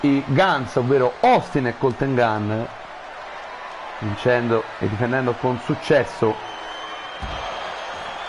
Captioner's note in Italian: Applauso